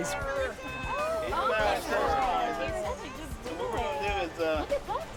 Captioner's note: everyone exclaiming greetings